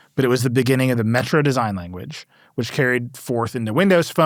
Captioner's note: none